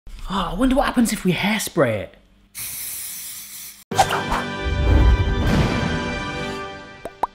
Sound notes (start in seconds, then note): 2.6 hairspray hissing